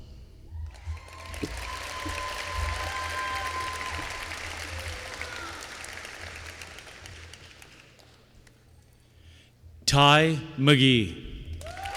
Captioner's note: applause